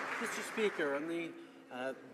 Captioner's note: some Applause